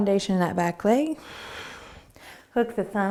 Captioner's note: exhaling